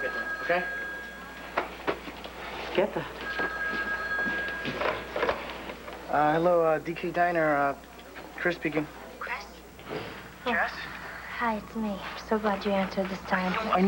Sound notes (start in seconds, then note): 0.0 telephone rings; 3.2 ring